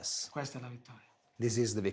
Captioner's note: speaking foreign language